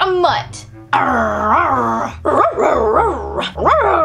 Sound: growling and barking; barking and panting

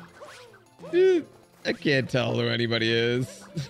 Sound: slight scream

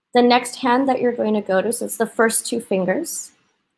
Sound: none

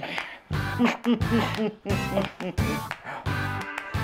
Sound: chuckling

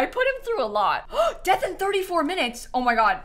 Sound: gasps

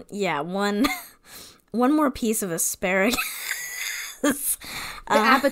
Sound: wheeze laughs

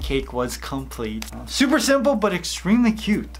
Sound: hand clap

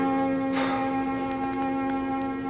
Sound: exhales

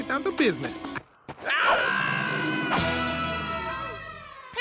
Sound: screaming

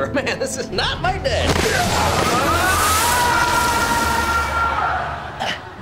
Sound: screaming

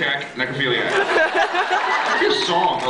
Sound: laughs

